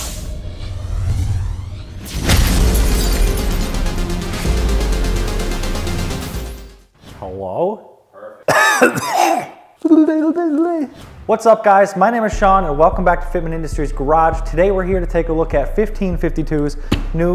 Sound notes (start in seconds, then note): 1.7 digital explosion; 8.4 coughing loudly; 9.9 babbling quietly